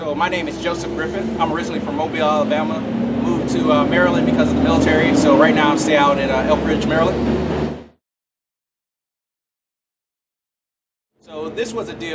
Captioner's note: truck noise